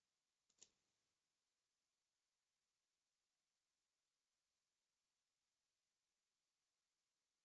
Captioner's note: mouse clicking